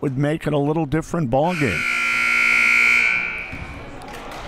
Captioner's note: clock buzzes; crowd murmuring